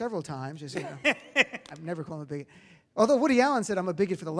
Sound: laughs

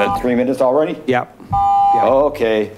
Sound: buzzer beeps

